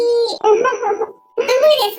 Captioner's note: laughs